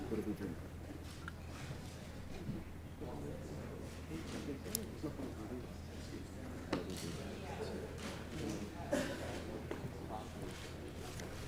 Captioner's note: indistinct chatter